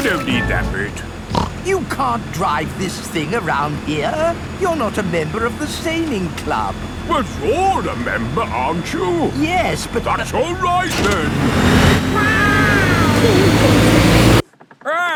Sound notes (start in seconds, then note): 1.2 snorts; 12.1 laughing